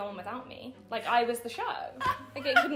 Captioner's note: laughing